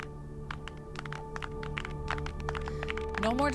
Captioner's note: clapping